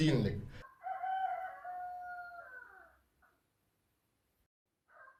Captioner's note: crowing